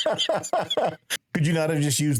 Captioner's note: laughing